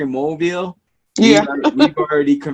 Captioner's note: laughs